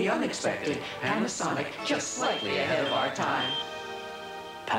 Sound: beeps for scans

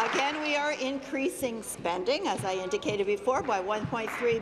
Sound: applause

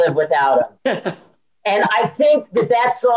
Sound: chuckles

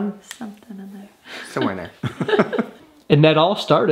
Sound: both laughs

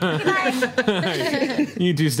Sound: group laughs

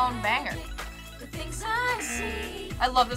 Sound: buzzer

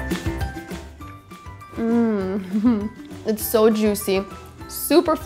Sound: chuckles

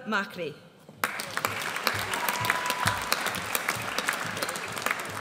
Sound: audience applauds

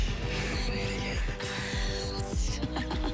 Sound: chuckling

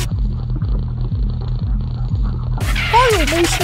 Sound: cat sleeping and purring; Santa's running foot steps

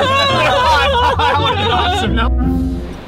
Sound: laughing

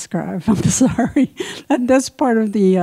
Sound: laughs

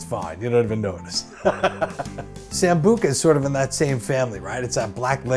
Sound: laughs

